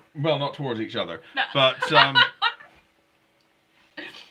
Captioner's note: laughing